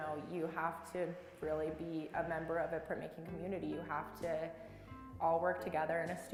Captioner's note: none